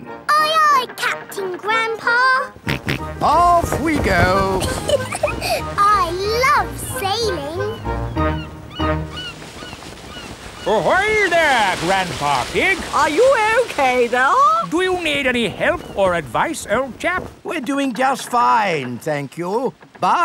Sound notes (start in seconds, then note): 2.5 snorts; 4.4 giggles